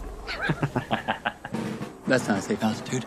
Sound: Corbin laughs

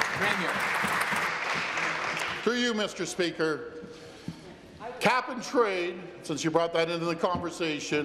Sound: applause

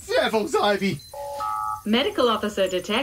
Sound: computer TONE

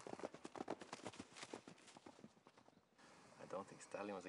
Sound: hooves thudding

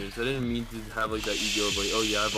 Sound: shushing

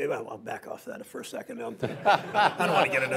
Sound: laughter

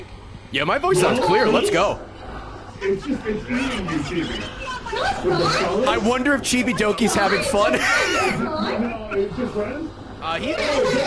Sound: laughs

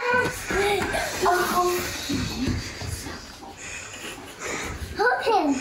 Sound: children chatting

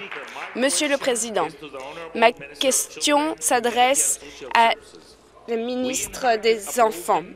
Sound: applause

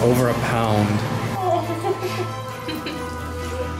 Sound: laughter

